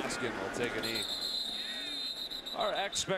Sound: whistle

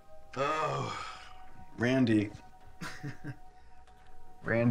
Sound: laughs

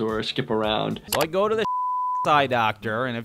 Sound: beep

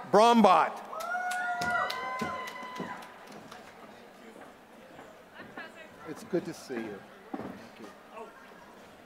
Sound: applause

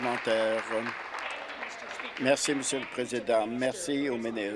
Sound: applause

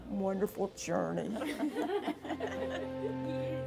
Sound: laugh

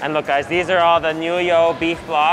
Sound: speaks Mandarin

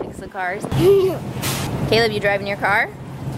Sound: giggles

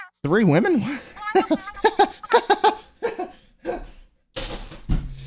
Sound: confused laughter

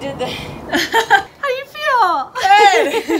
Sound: laughing; laughs

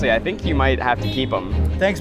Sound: car honks

